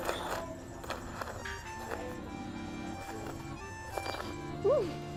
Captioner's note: slurping